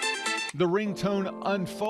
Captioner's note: sound of iPhone ringtone